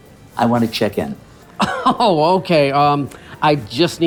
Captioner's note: laughs